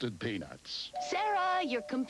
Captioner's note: doorbell rings